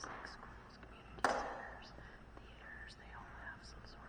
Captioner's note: knock